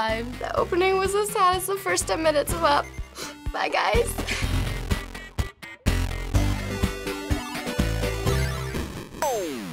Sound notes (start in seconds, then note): 3.0 sniffles; 3.9 old-school video game music